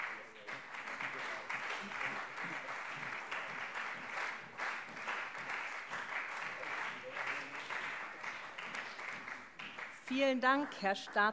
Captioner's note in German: Beifall CDU und SPD